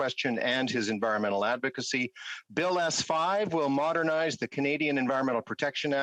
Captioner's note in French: voix de l'interprète